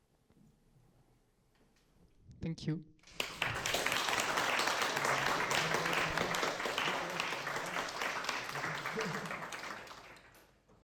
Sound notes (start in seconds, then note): 3.0 audience applauding